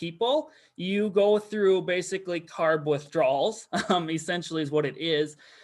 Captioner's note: chuckles